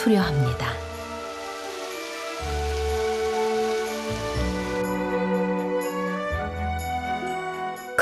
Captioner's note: water flowing